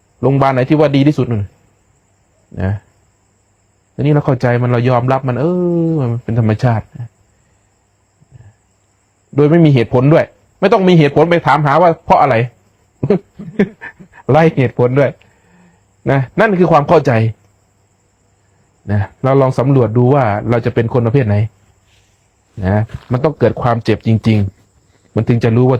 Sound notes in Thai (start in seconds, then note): 13.0 เสียงหัวเราะ